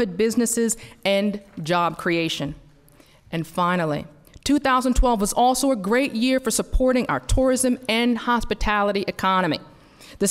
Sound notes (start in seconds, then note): none